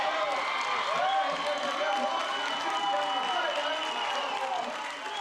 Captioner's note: cheers and applause